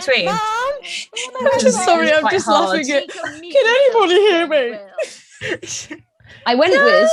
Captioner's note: she laughs